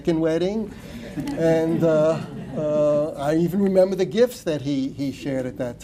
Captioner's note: laughter